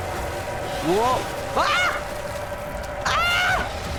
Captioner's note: splashing that's not me; creature snarling